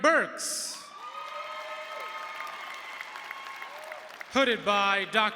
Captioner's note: audience cheering and applauding